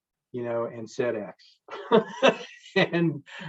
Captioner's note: chuckles